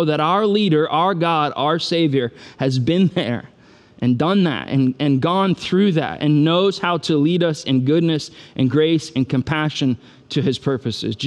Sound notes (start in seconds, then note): none